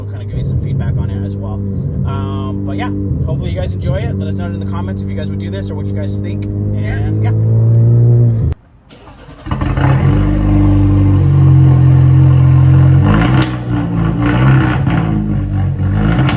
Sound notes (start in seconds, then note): 9.1 car engine starting; 13.2 car engine revving